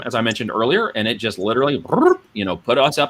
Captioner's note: sound effect